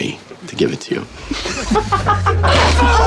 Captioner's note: laughing